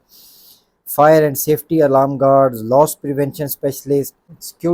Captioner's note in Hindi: नाक से की जाने वाली आवाज़